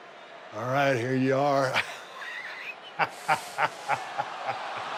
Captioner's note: Steve laughing